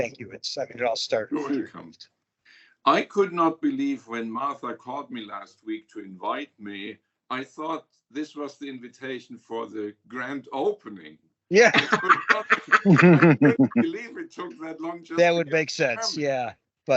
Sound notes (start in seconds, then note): 11.6 everyone laughing